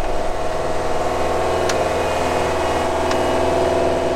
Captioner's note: rattling, machine noise